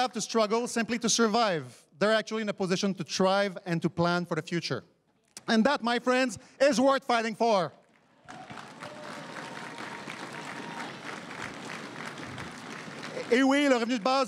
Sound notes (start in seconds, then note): 8.0 crowd cheering and applauding